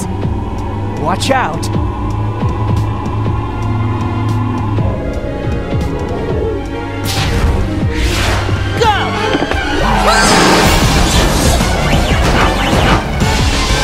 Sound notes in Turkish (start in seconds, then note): 2.3 kalp atişi